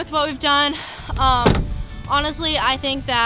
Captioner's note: car door shutting